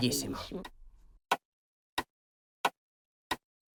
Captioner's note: clock tick tock sound